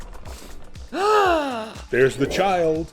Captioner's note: gasp